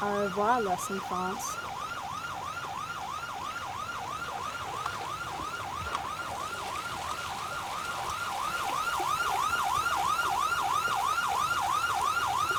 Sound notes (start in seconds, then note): 2.3 sirens wail; 9.6 water splashes